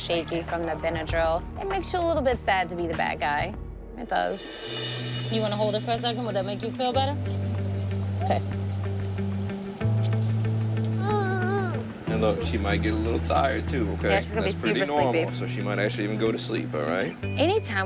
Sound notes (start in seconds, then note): 10.9 baby fussing